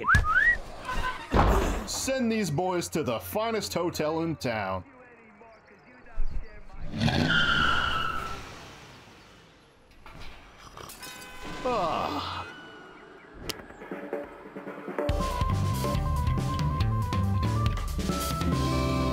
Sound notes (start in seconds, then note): 0.0 whistle; 6.8 fast driving sounds; 9.8 car wreck is heard in background